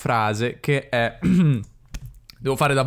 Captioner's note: clears his throat